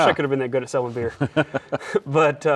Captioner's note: laughs